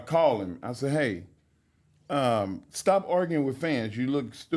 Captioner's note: none